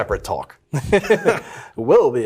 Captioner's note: laughs